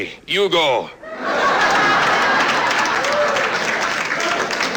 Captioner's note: laughter